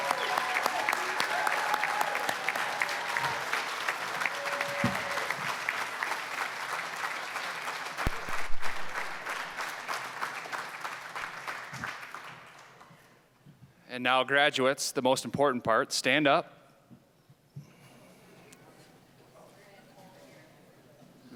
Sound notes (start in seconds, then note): 0.1 applause, cheering; 4.2 applause